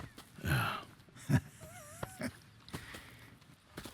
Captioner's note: Arthur laughs; Hosea laughs